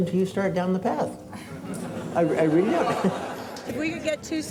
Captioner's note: audience laughs